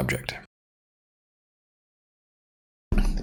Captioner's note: silence